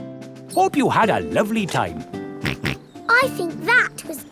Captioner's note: snorts